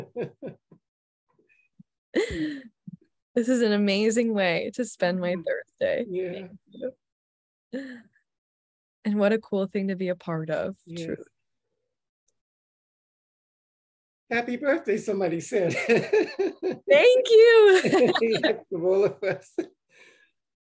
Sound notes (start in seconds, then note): 0.1 both giggles; 17.6 giggles; 17.7 both giggle